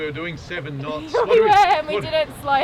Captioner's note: laughs